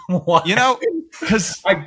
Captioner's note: laugh